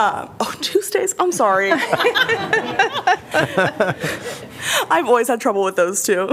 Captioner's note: laughter